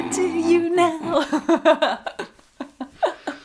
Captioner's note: laughing